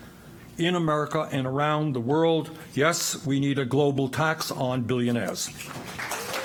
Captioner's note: applause